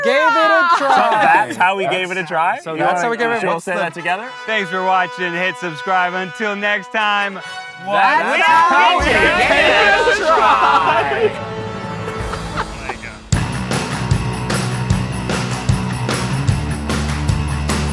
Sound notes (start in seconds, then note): 12.0 laughing; 12.2 energetic pop music